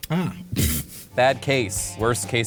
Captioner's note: laughs